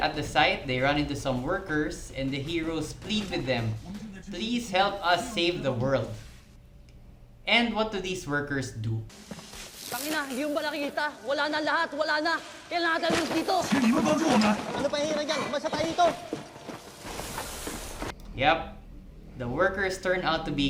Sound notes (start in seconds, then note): 10.5 in Tagalog